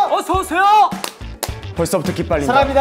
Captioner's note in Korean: 짝.짝